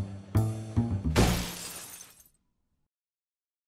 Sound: crash

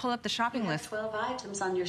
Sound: electronic voice

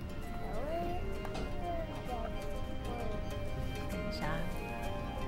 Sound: child murmuring

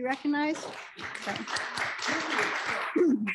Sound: applause

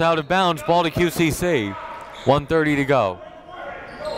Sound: whistle blows

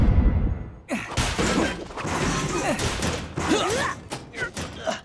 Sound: grunting

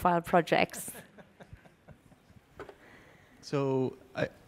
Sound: laughter

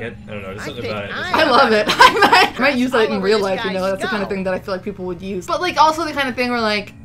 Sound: laughs

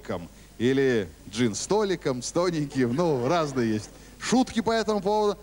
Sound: laugh

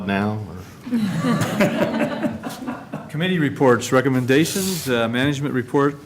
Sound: laughter

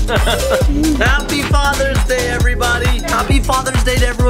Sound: laughing

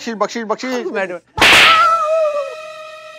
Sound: loud slapping noise

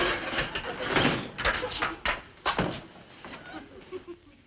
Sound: banging and clanging

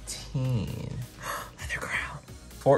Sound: gasps

